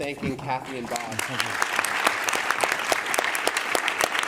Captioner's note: audience claps